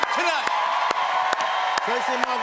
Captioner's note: cheers and applause